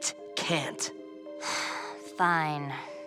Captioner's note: sighing